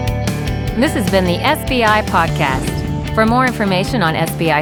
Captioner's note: upbeat music; voiceover